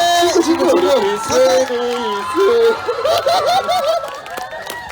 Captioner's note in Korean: 웃음